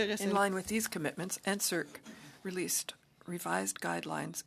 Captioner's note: speaking French